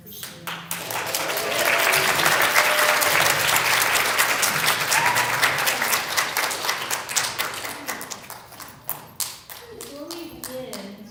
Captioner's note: applause